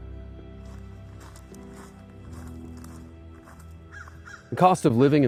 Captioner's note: footsteps on gravel. Wind in trees. Crow calling in the distance